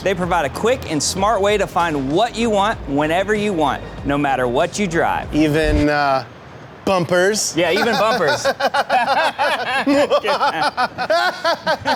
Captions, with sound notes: - They provide a quick and smart way to find what you want, whenever you want, no matter what you drive. - Even bumpers. - Yeah, even bumpers. (both laugh)